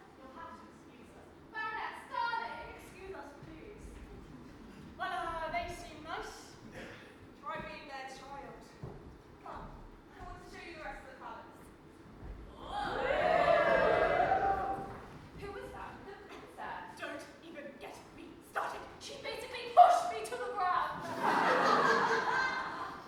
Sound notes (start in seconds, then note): 12.5 audience: woooo; 21.0 audience laughs